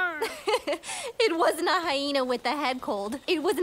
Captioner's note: giggles